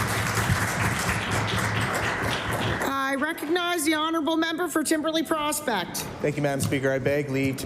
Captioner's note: applause